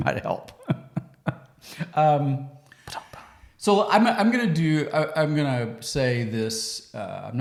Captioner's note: laughs